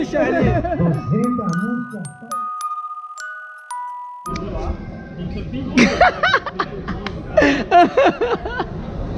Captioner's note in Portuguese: risos